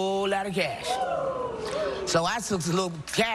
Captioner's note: crowd oohs